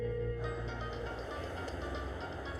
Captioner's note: cell phone ringing